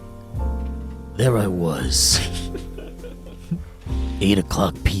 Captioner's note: slow piano music; giggling